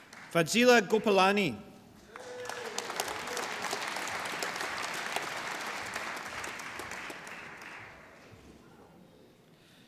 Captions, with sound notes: Fazeela Gopalani. (APPLAUSE)